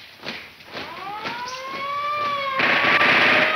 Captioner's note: siren blaring; gunshots banging